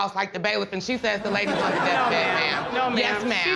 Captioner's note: audience laughing